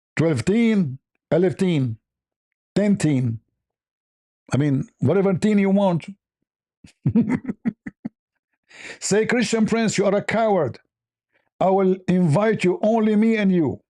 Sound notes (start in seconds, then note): 6.9 ketawa